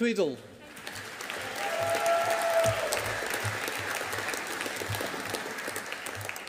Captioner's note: audience applauding